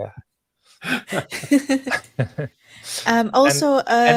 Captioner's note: all laughing